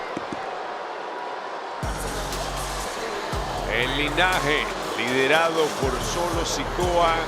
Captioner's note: applause